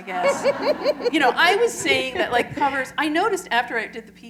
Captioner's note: laughter